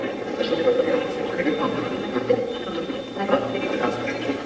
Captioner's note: Steve's Box chatters